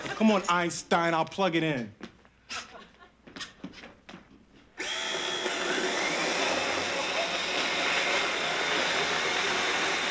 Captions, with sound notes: Come on, Einstein I'll plug it in. (machine whirring)